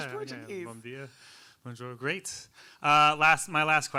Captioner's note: speaking in foreign language